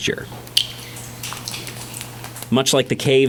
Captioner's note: water dripping